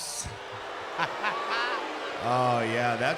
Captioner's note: crowd boos; laughs